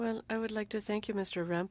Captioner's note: speaking French